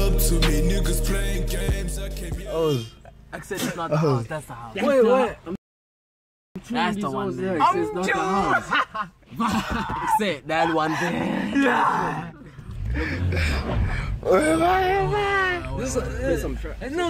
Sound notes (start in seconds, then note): 8.2 laughs